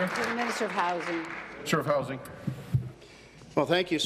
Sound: applause

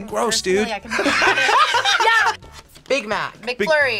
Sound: both laugh

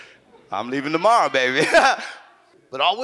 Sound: chuckles

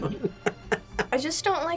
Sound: laughs

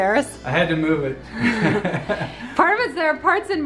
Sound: laughing

